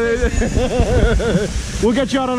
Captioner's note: laughing